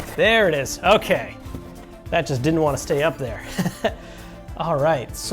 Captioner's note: chuckles